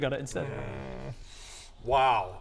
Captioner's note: unwilling noises